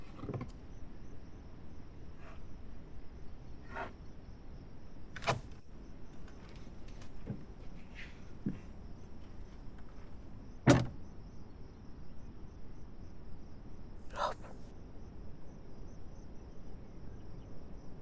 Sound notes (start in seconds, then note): 5.1 door clicking; 10.6 door thudding